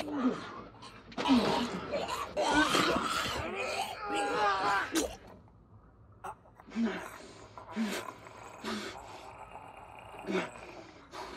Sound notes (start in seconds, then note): 5.6 squelching; 6.8 panting; 7.7 gurgling